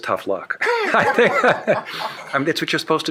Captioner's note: shared laughing